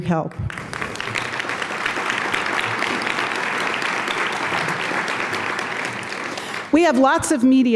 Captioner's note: applause